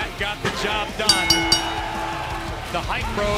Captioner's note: bell ringing